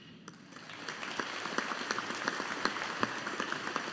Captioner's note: audience applauding